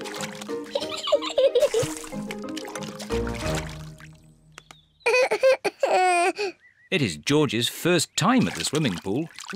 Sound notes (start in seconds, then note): 0.7 giggles; 5.0 cries